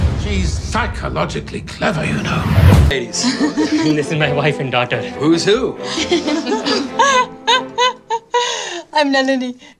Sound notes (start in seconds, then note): 5.9 laughs